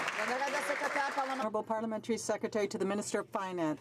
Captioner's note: some Applause